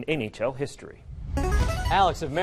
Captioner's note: buzzer